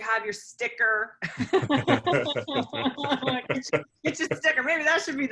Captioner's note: laughter